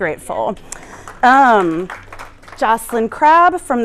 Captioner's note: applause